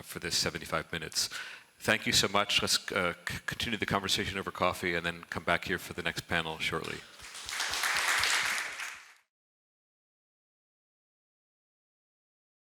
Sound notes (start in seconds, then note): 6.9 crowd applauding